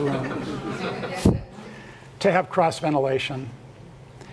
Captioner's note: laugh